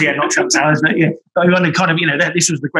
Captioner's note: laughter